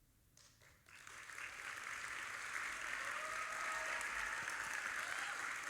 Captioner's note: audience applauding